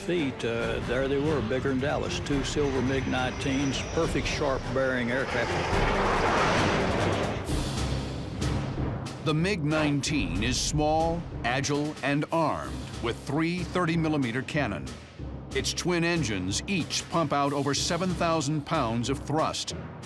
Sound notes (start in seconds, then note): 5.6 planes roaring